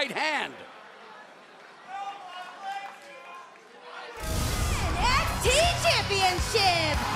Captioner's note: crowd chatter